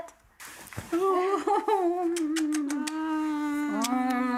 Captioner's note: lips smacking; boys squealing